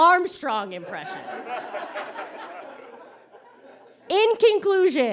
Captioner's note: audience cackles